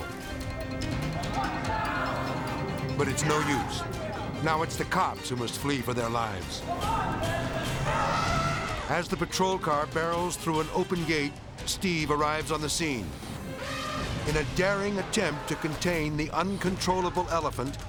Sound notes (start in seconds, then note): 0.3 edgy dramatic music; 1.3 someone yelling; 6.7 elephant trumpeting; 6.8 someone yelling; 13.4 elephant trumpeting